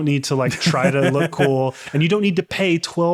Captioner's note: laughing